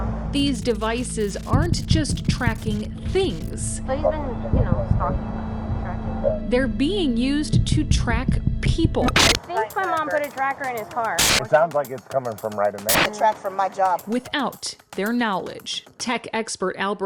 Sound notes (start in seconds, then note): 9.0 static beeps; 11.8 static hisses